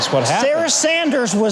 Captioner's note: crowd laughing